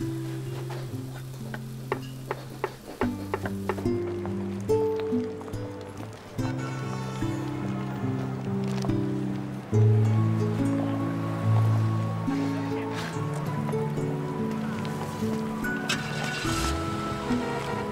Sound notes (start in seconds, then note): 3.4 soft guitar; 8.4 cars honking